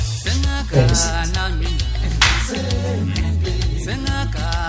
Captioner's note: slap